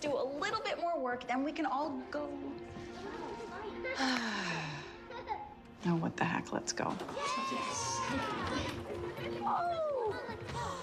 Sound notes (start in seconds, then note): 3.9 sighs; 7.1 children cheering